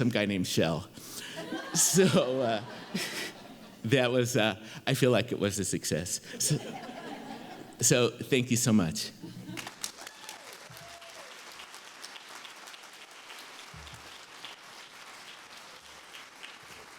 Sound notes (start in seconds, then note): 3.2 laughter; 13.6 applause